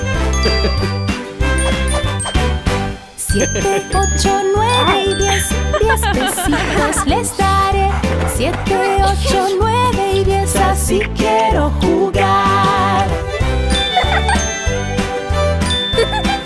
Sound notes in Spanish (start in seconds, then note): 0.4 Risas; 1.4 Música alegre; 5.3 Risas; 12.9 Música alegre; 13.7 Risas